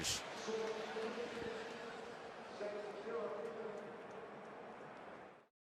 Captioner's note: pa announcement